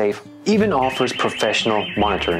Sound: alarm ringing

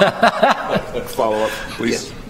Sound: laughter

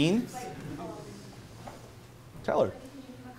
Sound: female attendee mumbling

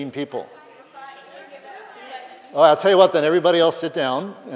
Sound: background conversations

